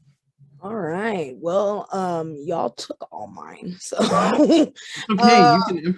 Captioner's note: laughs